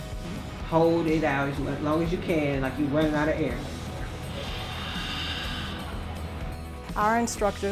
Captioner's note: student exhales